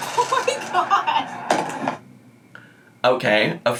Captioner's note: laughs